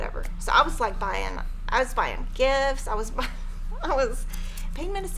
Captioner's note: laughing